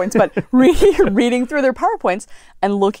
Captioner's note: laugh